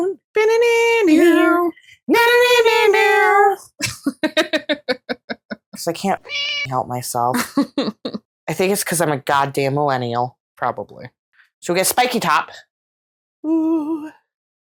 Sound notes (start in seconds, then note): 0.2 both vocalizing; 6.2 meow